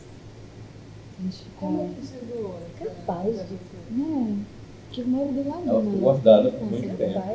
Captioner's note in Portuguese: grupo conversando ao fundo